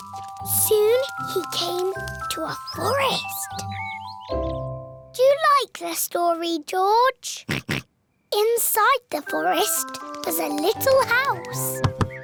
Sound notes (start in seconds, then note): 7.5 oinks